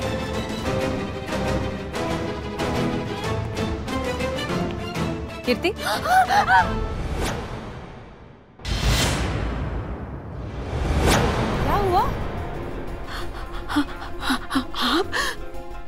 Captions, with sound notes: - Kirti. [startles] What happened? You...